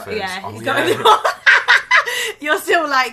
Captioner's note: laughs